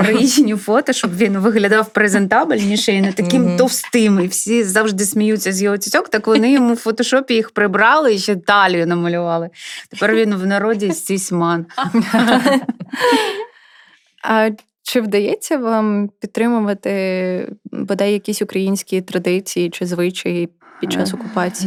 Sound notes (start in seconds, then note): 11.7 laughter